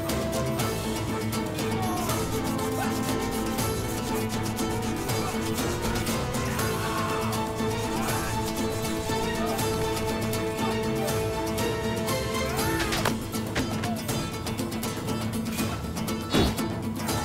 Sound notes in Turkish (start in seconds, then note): 0.0 Müzik - Aksiyon; 2.4 Dövüşme sesleri